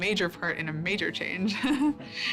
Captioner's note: chuckles